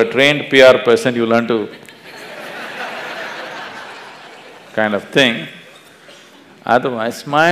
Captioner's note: laughter; 笑聲